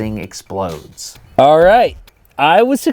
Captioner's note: voice Echoing in cardboard box